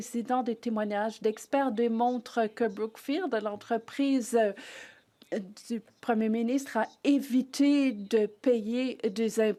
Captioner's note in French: voix de l'interprète